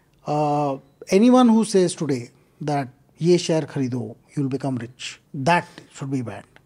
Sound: speaks in Hindi

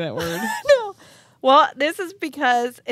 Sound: chuckles

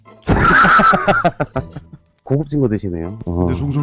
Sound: laughter

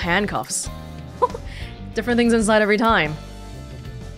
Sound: chuckles

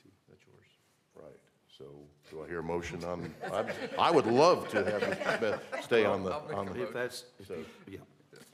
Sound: laughter

